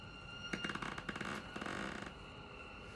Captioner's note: footstep creaking